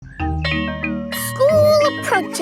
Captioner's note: school bell rings